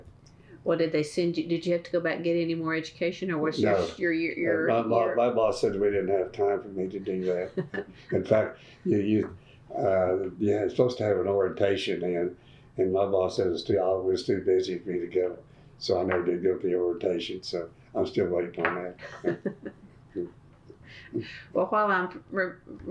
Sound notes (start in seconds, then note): 7.2 laughter; 22.1 laughs